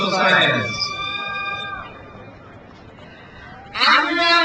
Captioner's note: crowd cheers